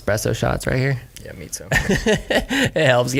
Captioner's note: laughs